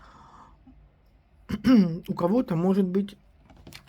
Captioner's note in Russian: откашливается